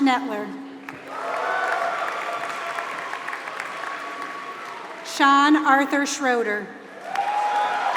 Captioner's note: applause; applause